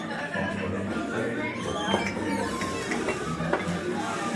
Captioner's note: people chattering